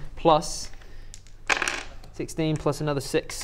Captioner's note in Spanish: tirada de dados